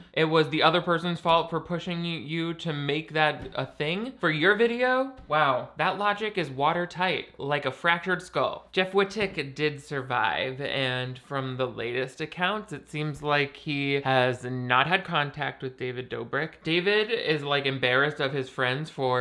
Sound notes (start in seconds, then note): none